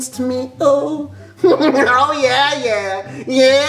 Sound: laughs

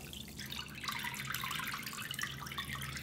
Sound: dripping

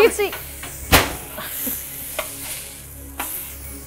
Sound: sizzles

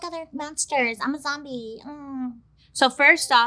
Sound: lightly groans

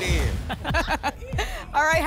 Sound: laughs

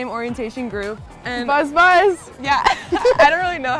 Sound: laughs

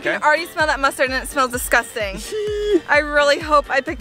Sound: laughs

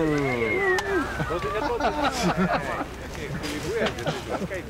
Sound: men whooping; man whistling

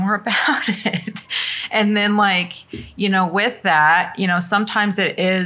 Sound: laughter

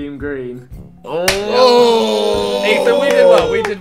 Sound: group oohing

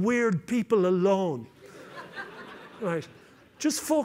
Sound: laughter

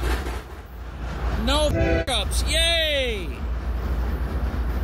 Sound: train horn

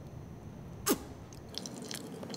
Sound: lip smacking; sucking; lip smacking

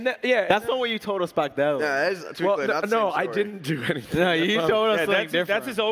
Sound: laughs

